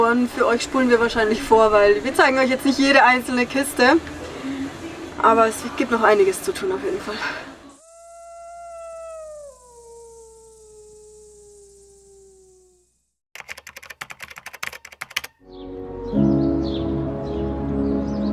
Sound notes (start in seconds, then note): 7.7 coyotes Howling & Crickets Chirping; 15.3 music & Birdsong